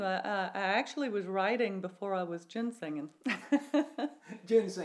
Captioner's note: laughs